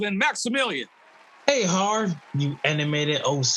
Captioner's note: audience clapping